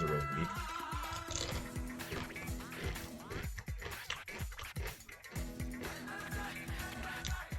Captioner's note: craunch